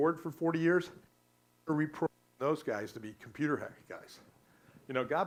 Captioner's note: static